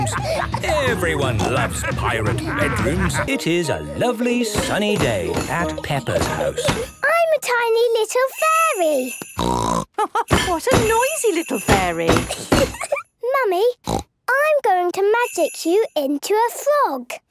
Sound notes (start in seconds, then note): 0.0 laughter; 9.4 snort; 9.9 laugh